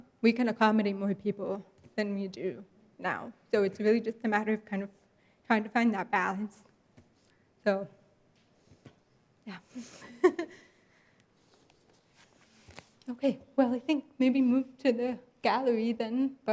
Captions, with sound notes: We can accommodate more people then we do now. So it's really just a matter of kind of trying to find that balance. So, yeah. (laughs) Okay. Well, I think maybe move to the gallery then,